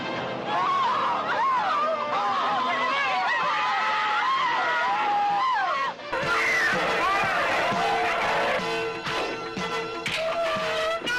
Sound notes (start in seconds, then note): 0.4 screaming; 1.3 upbeat music